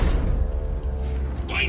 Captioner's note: screaming